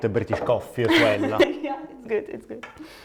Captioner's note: laughs